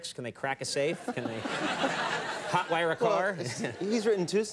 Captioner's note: audience laughing